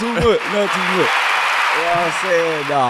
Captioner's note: audience applauding